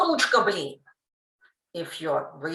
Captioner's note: Russian